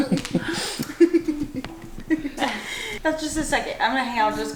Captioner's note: laughs; laughing